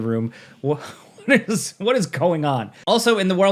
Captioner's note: chuckles